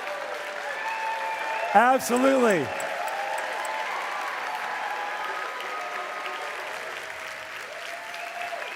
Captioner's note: cheering and Applause